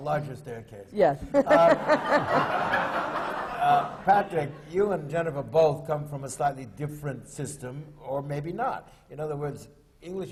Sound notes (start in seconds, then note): 4.5 laughter